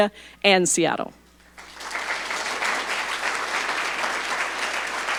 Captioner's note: audience applauding